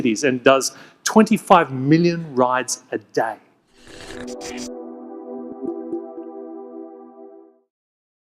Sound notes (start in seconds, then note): 3.8 graphics whooshing; 3.8 gentle music